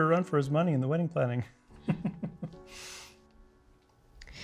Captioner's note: chuckling